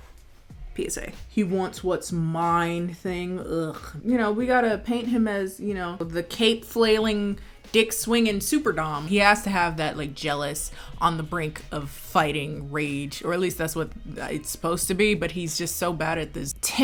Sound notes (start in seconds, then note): 3.4 groans